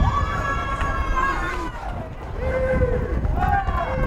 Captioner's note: crowd cheers